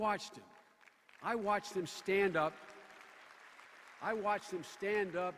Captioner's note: scattered applause